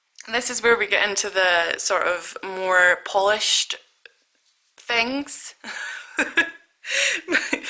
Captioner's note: laughs